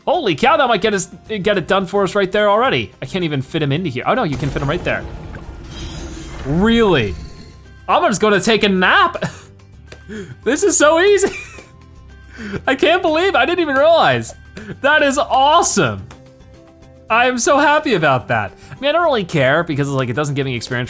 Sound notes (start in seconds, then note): 6.2 dynamic music; 11.2 chuckles